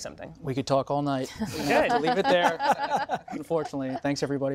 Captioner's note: laughter